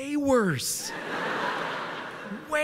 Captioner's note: laughter